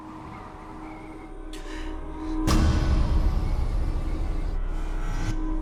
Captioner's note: gasps